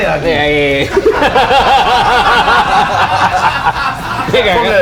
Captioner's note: laughs